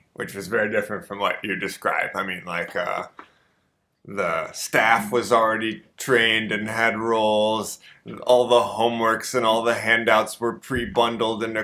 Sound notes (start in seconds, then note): none